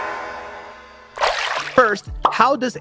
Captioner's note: water pouring